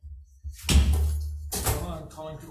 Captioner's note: gavel banging